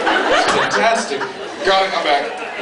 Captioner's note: laughs